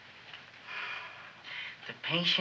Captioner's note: Wilbur sighs